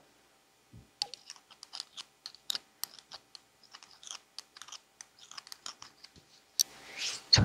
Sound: sound of rings clashing

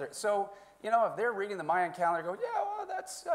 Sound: none

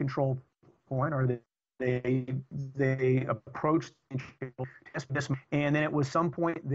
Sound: audio corruption

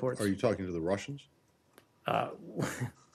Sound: laughter

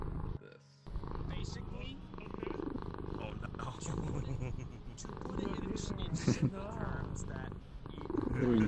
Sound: purring

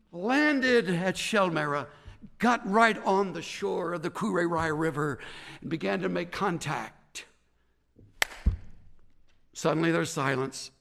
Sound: claps hands

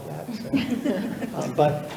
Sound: all laughing

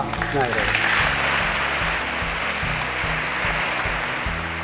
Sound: audience applauding

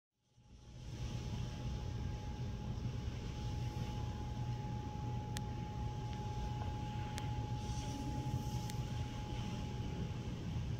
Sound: white noise

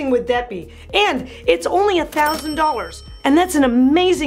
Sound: bell rings

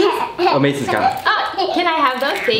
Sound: laughs

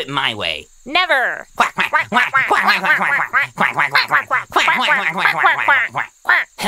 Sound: angry Quacking

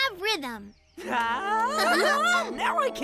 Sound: exclaims excitedly

